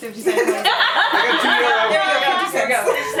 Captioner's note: laughter